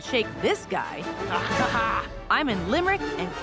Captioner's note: laughs